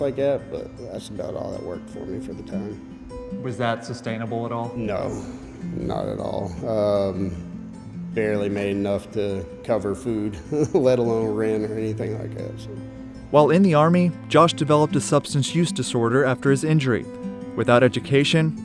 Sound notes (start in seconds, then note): 10.2 laughs